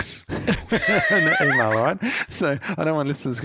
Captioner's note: both laughing